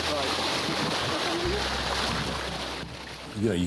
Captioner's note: water splashing